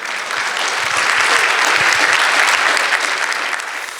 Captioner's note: audience applauding